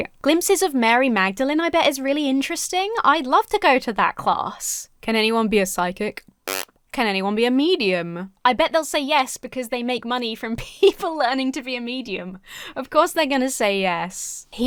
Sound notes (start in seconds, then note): 6.4 blows raspberry